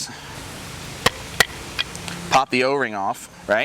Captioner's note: pump lid clatters